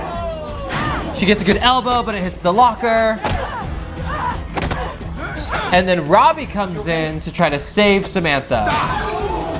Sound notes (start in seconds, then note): 3.1 blows thudding